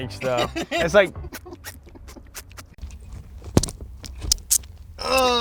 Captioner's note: mimmicks wet squishing noise